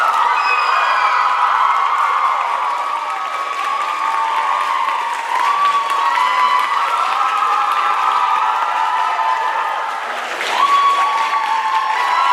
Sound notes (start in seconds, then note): 0.0 applause, cheers